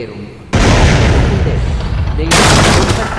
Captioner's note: explosion from outside